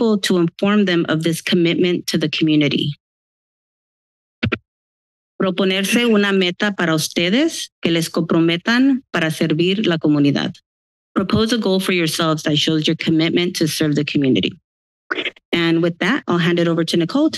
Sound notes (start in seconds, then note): 5.2 foreign language